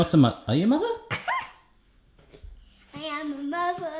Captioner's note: chuckles